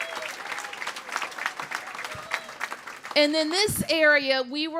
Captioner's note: cheers and applause